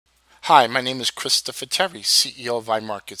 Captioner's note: Voz en off